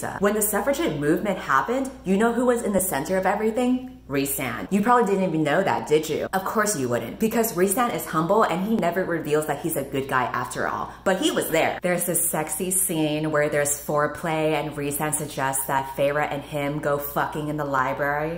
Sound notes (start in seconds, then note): none